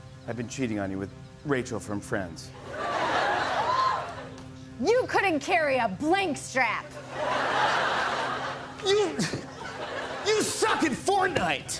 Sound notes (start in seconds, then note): 2.7 laughter; 7.0 laughter